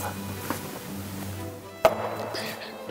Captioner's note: closes the book loudly